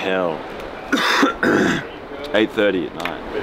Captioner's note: coughing